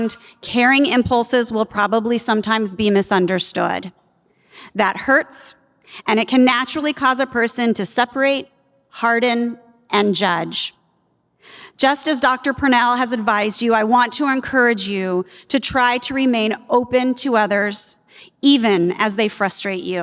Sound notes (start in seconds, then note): none